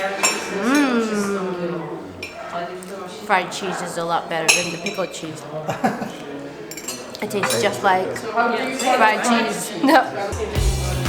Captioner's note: laughing